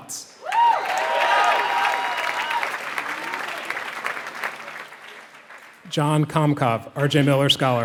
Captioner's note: applause